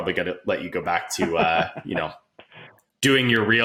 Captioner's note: laughing